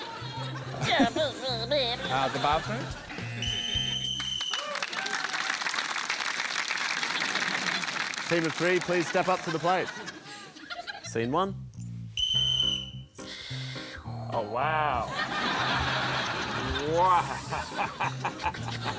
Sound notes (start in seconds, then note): 0.0 blows raspberry; 3.3 blows whistle; 3.4 buzzer; 4.1 applause; 12.1 blows whistle; 14.8 laughs; 15.0 laughter